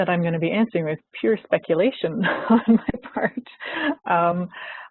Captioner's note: laughs